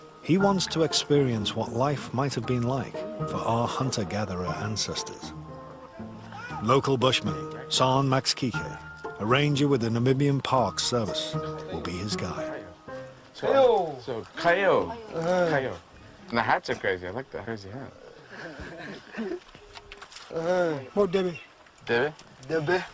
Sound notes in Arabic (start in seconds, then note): 18.1 القهقهة المجموعة